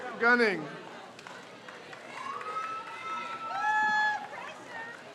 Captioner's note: crowd cheers